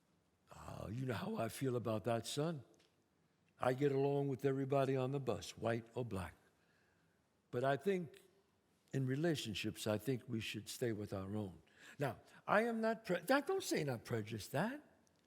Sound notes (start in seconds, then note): none